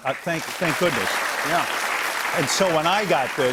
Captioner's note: applause